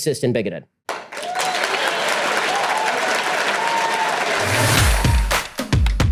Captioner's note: audience applause